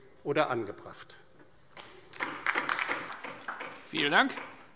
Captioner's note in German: Beifall DIE LINKE